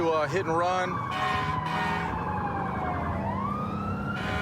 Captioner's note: emt sirens blaring